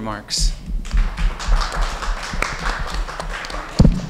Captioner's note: applauding